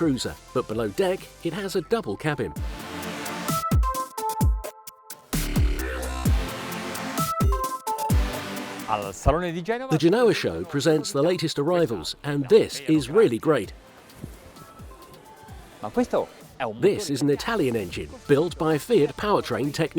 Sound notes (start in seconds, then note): 2.8 techno music; 9.0 foreign language; 14.3 foreign language